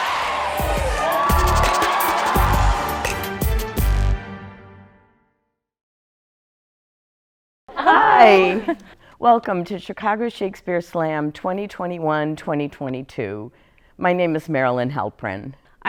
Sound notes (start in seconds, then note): 0.0 crowd cheering; 0.0 exciting music